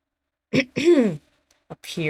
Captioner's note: clearing throat